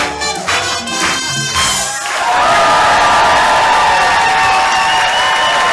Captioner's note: wild cheering